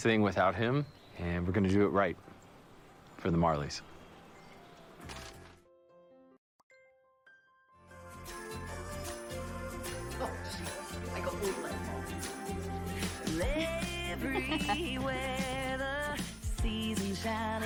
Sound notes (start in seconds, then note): 3.8 instrumental music; 10.2 indistinct chatter